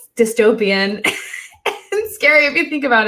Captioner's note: laughs